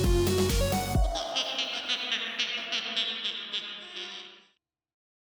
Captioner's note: spooky laughter